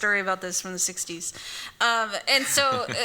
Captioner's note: laughs